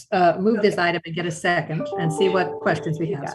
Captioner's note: computer chimes